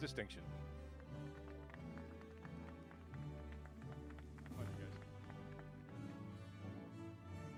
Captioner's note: applause